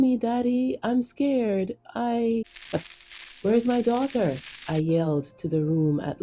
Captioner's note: Static